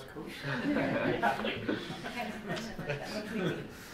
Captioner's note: laughing